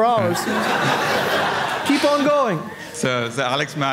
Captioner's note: audience laughing